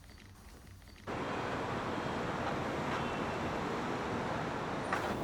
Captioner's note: city ambience